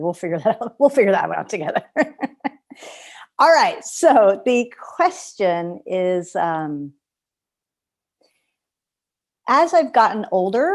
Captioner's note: laughter